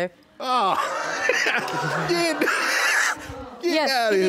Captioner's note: laughs